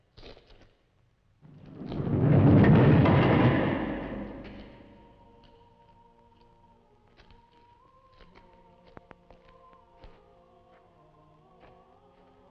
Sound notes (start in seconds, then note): 1.4 door rumbling; 5.4 singers vocalizing